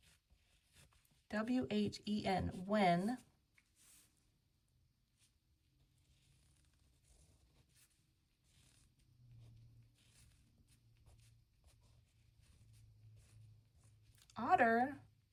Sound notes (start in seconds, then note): none